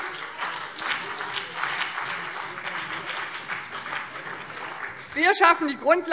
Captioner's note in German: Beifall BÜNDNIS 90/DIE GRÜNEN und vereinzelt CDU